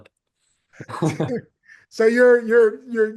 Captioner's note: people laughing